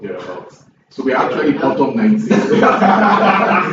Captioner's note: laughs